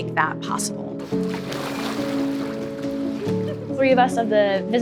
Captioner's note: water splashing